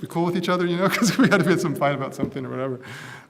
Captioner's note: laugh